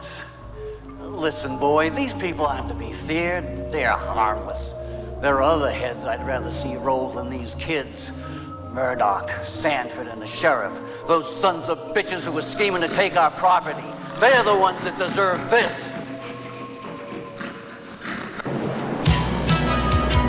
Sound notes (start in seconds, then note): 18.2 Buddy snorting repeatedly